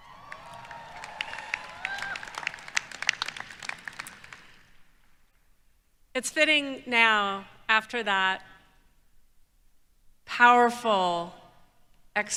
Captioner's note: applause